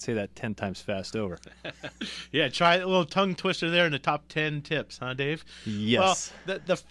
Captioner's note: laughs